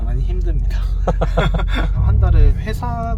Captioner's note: chuckles